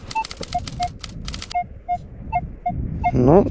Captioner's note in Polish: odgłosy detektora metali